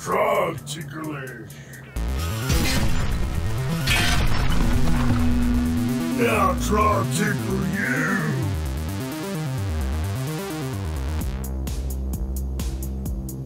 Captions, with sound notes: - Trog ticklish. (metal clanging) Now Trog tickle you. (suspenseful synth music)